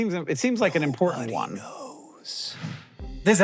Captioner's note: whispering